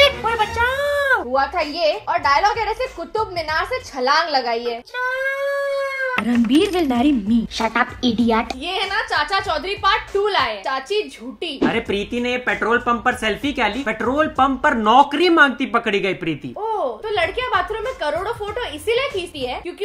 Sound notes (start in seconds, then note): 5.2 mimics